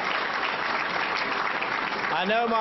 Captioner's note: applause